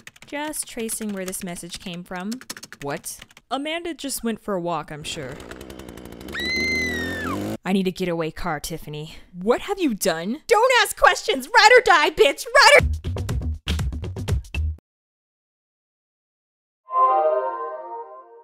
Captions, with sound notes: - Just tracing where this message came from. - What?! Amanda just went for a walk I'm sure. (chainsaw noises in the background) (girl screaming) - I need a get away car Tiffany. - What have you done?! - Don't ask questions! Ride or die bitch! Ride or --